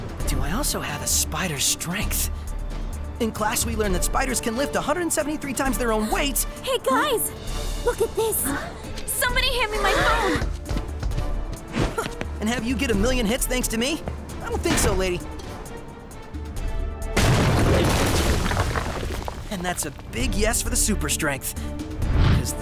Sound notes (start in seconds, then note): 17.2 bricks crumbling